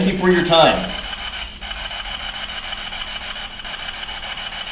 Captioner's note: static buzzing